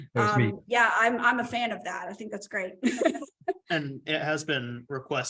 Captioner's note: laughter